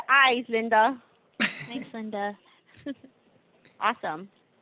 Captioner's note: laughter